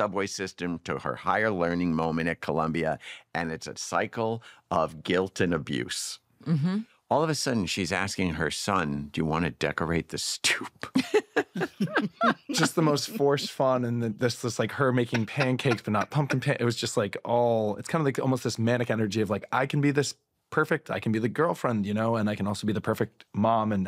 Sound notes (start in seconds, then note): 10.9 laughter